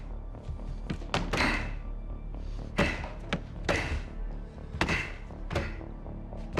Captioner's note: solemn music; grunting; strikes thudding